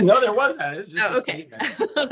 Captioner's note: laughing